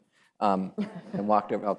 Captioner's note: laughs